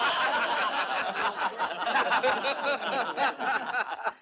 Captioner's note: boisterous laughter